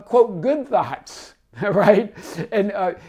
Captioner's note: laughs